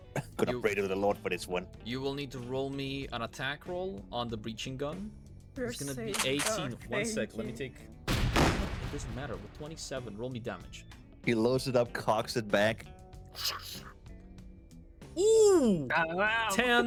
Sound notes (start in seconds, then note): 8.0 gunshot; 16.2 laughs